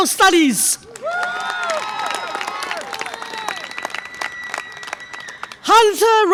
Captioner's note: audience applause and cheer